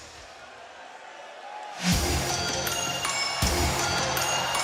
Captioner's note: crowd chatter